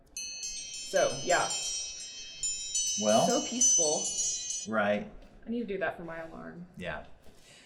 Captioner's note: timer chimes